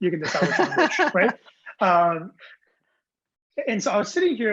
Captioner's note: laughing